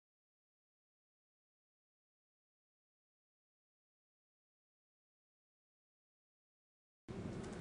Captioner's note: silence